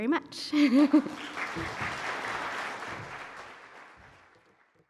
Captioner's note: laughs; audience applauding